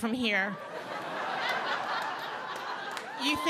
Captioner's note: audience laughing